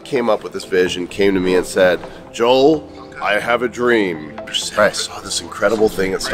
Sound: animated voice

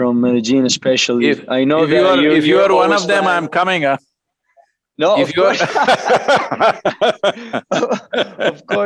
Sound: both laugh

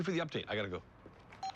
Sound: cell phone beeps

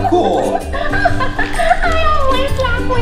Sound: Minnie Laughs

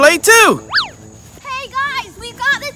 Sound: swish

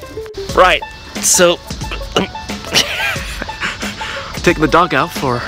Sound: laughs

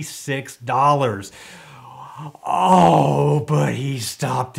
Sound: groans

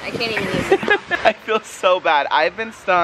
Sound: laughing

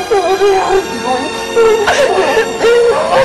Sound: crying

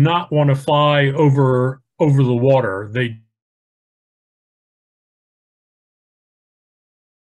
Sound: microphone fades

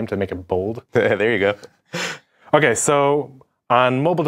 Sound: laughing

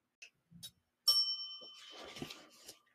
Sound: bell dings

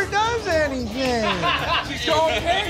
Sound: laughing

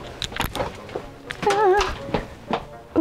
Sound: vocalizes

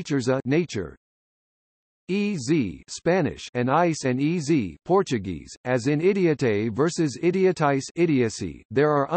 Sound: Spanish

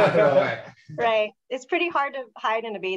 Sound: speaker laughing

